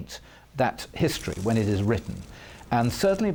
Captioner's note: camera shutters clicking